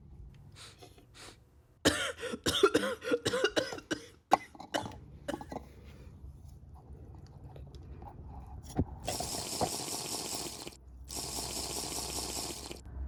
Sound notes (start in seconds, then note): 1.8 coughing; 9.0 minecraft sipping noises